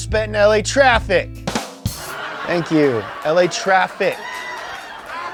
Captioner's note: laugh track